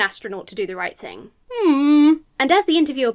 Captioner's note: hums dubiously